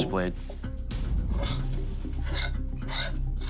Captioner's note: metal scraping